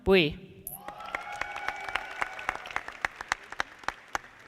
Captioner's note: audience applauding